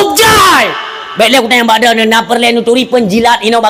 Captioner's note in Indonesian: berteriak